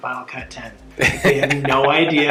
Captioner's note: laughing